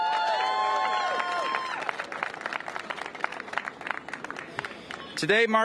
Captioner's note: cheers and applause